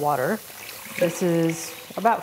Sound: water pouring

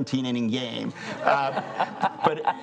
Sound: laughing

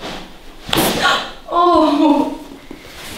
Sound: the girl screams after massage

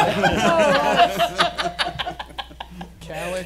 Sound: laughing

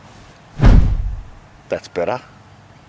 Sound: hand Thumps

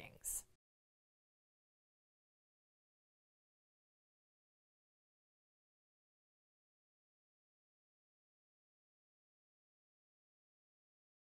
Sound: no Sound Present

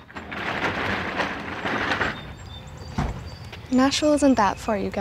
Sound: door rolling

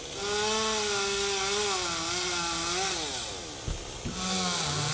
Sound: chainsaw buzzing

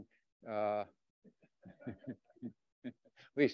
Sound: laughter

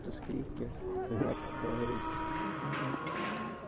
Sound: shrieking donkey

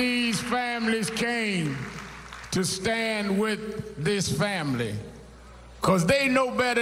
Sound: cheers and applause

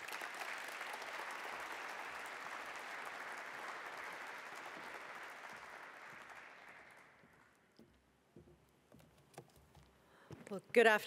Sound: applause

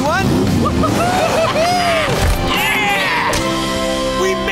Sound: cheering

